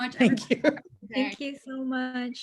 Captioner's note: laughs